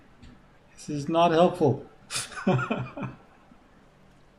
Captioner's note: chuckles